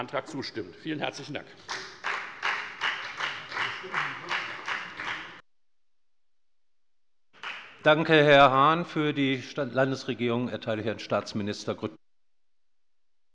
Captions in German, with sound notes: - Vielen herzlichen Dank. [Beifall bei der FDP] Danke, Herr Hahn. - Für die Landesregierung erteile ich Herrn Staatsminister Grüttner das Wort.